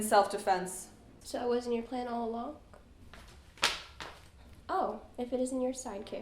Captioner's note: footsteps